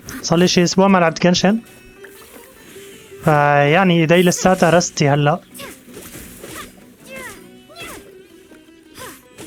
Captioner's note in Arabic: زقزقة الطيور